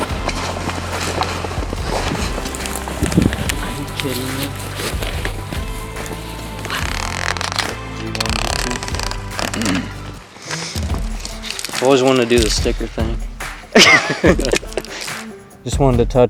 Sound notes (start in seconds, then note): 0.3 sound of walking; 6.6 sound of peeling tag off backing